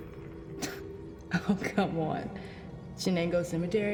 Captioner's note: scoffs